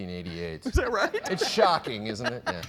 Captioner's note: laughing